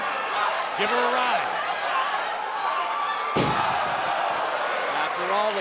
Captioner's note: crowd cheering